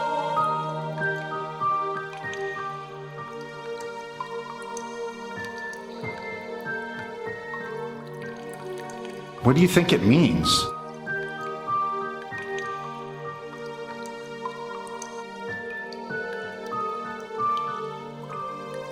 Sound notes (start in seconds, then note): 1.9 water dripping; 11.6 mysterious music continues